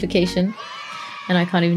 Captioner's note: kids cheering